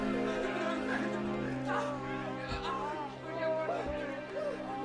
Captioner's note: man squeals; men wailing